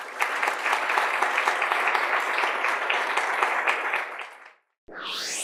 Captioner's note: participants applauding; electronic whooshing